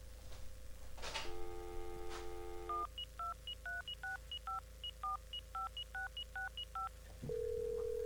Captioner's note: phone dialing